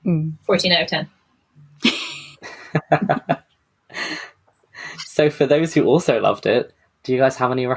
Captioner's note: laughs